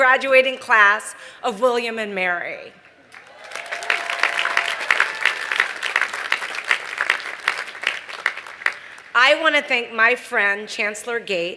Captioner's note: applause